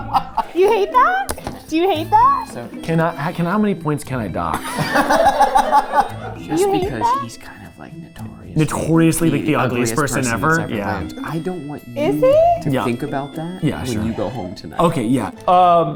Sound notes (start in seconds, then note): 0.0 group laughing; 4.5 group laughing